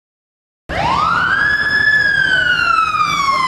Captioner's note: police siren blares loudly